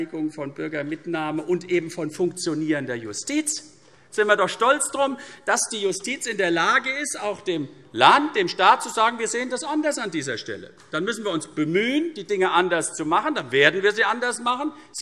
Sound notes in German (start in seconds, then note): none